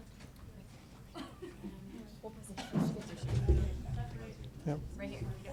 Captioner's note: board members chatter